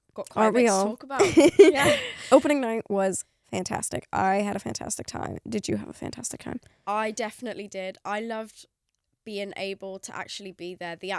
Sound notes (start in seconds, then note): 1.2 laughs